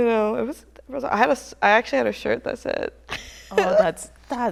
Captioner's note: chuckles